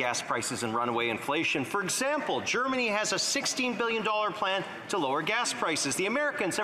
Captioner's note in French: voix de l'interprète